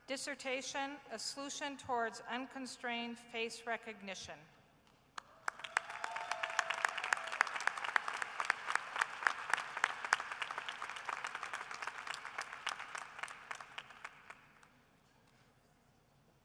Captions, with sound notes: Dissertation, "A Solution Towards Unconstrained Face Recognition." [APPLAUSE]